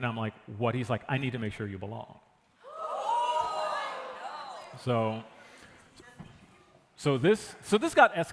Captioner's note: gasps from the audience